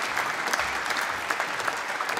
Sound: applause

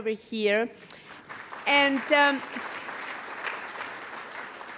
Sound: audience applauds

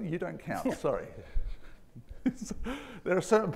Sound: chuckling

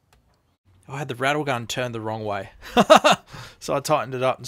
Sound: laughs

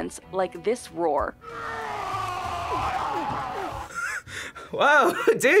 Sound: man roars; laughs

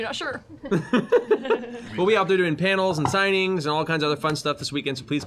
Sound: giggles

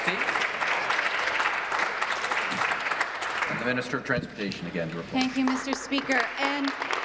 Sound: applause

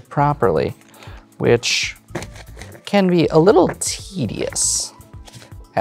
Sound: thumps cards

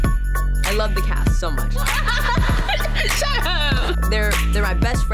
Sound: laughing

